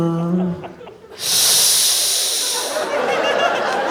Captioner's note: "Sssssss"imitating sensation